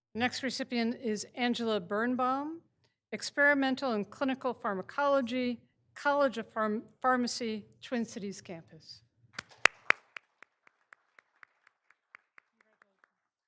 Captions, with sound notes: Next recipient is Angela Birnbaum, Experimental and Clinical Pharmacology, College of Pharmacy, Twin Cities campus. (all applauding)